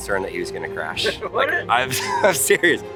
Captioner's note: laughs